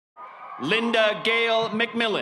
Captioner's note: audience cheering